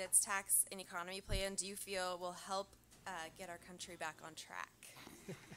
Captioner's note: laughter